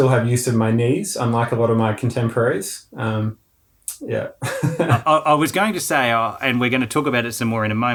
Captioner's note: laughing